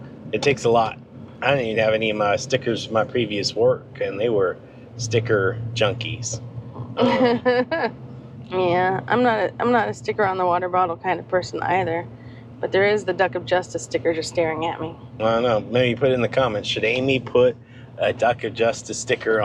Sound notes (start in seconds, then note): 6.8 laughs